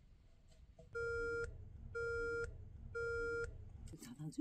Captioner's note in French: Bip-bip-bip